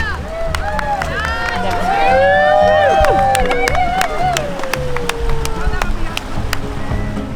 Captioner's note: crowd yelling and cheering